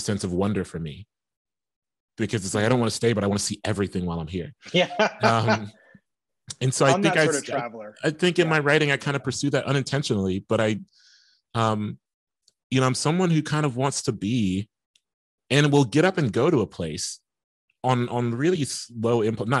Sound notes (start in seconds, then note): 4.6 laughing